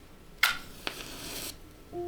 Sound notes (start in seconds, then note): 0.4 striking a match